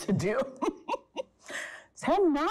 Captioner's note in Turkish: Gülüyor